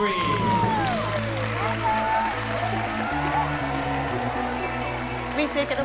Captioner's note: cheering